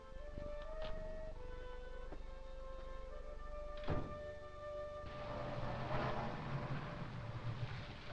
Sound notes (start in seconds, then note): 3.8 door thudding; 5.0 car engine revving